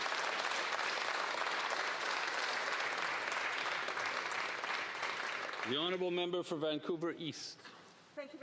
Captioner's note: applause